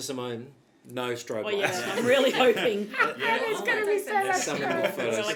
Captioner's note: laughing